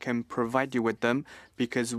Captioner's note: speaking French